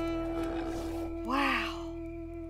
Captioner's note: deer bellows